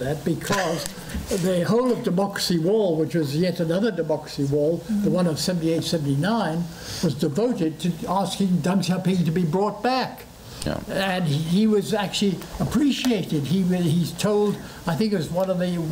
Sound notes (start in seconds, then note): 0.0 foreign language; 8.6 foreign language